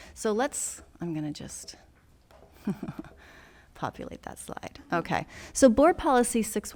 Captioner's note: laughs